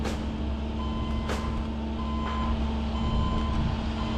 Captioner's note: tractor beeping